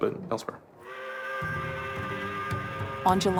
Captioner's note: train whistle